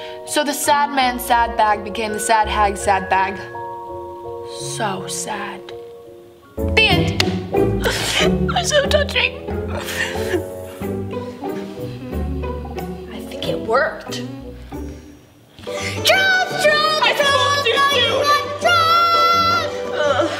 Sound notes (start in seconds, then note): 9.7 sniffles; 11.3 hums